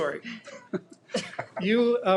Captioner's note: people laughing